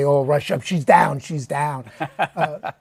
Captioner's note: laughs